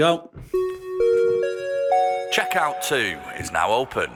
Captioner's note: chime